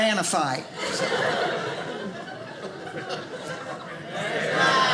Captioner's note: audience laughing